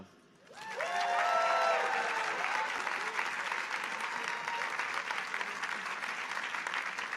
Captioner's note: audience applauding